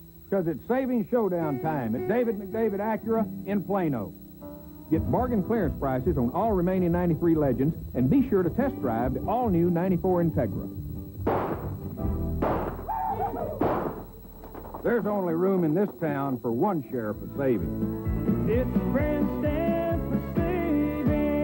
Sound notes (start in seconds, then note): 11.2 gunshot; 12.8 frightened shriek-laugh